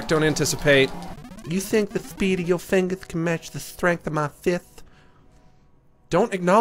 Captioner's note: high, lisping voice; normal voice